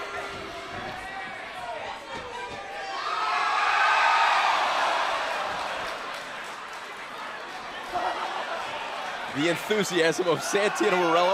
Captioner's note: crowd cheering